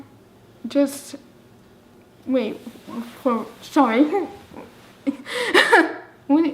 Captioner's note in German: lacht